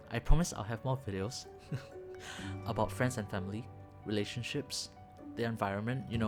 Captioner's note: chuckle